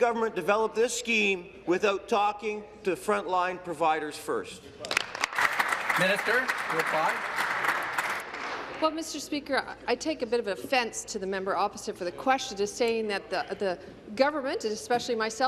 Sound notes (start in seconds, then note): 7.6 applause